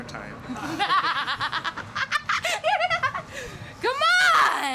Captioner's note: woman laughing